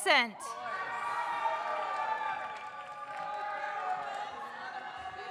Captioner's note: audience cheers